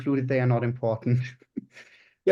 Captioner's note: chuckles